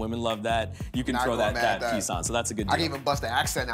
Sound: English accent

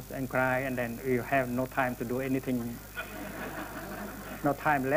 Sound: laughter

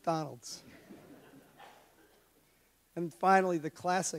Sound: audience laughs

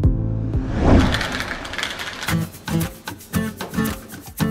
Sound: whoosh; cereal pours into bowl; upbeat music

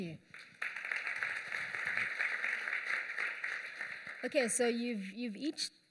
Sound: applause

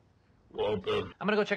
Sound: bitcrushed “waltuh”

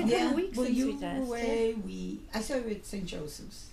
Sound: voiceover

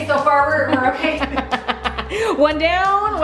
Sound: laughing

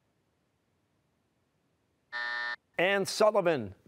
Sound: buzzer

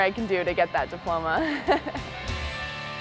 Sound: laughs; rock guitar

